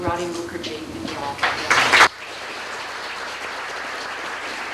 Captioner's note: applause